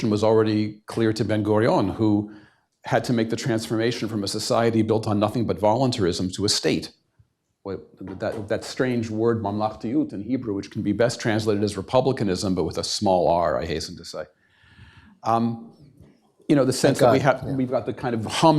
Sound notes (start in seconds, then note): 9.6 hebrew